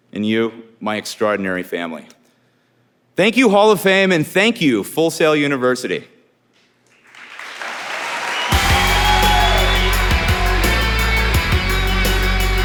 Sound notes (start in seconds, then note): 7.0 audience applauding; 10.0 upbeat music